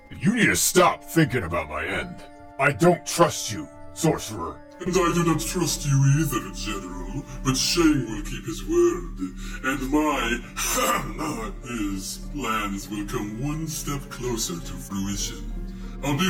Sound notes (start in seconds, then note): 10.6 ahem